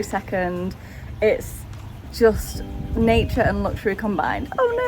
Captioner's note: doorbell rings